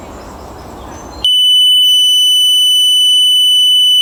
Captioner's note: beeping